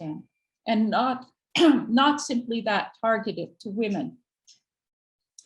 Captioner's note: clears throat